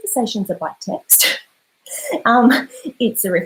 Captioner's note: laughs